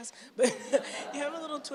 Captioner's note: chuckles